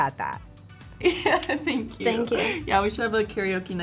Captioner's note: laughs